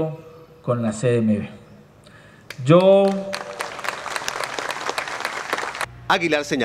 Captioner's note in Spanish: aplausos